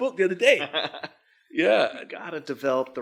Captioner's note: laughs